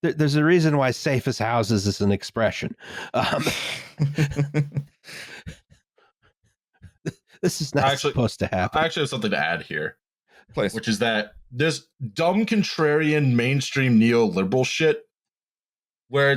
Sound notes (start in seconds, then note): 3.1 laughter